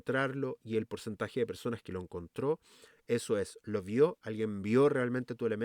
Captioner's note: exhale